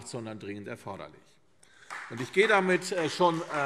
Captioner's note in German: Beifall CDU und BÜNDNIS 90/DIE GRÜNEN